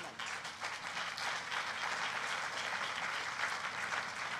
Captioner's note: applause